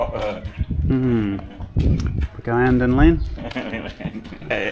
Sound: laughing

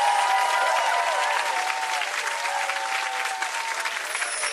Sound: applause; cheers

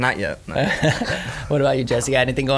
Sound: laughs

